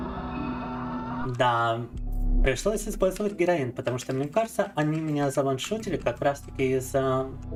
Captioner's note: speaking in Russian